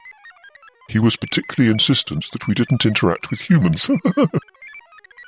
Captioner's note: laughs